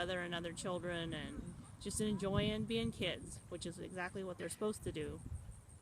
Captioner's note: sounds of wind blowing in the background